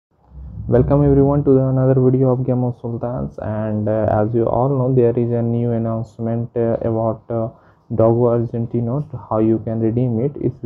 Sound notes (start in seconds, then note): 0.2 air blow